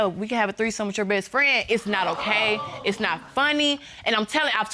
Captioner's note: audience exclaims